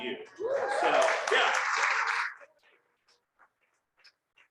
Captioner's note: crowd cheering